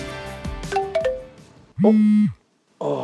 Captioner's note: ting-a-ling